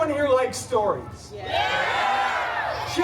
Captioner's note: guests shouting “Yeah!”